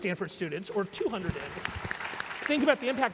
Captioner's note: applause